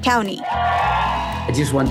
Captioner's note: crowd cheering